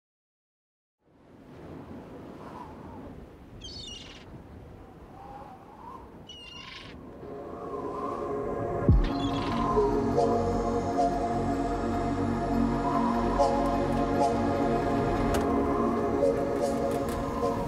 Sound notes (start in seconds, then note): 1.0 wind blowing; 4.5 birds chirping